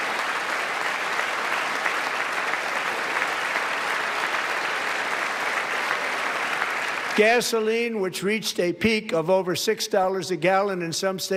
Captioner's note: applause